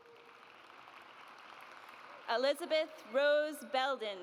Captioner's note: audience applauds